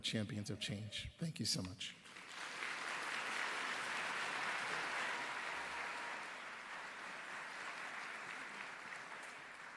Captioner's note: applause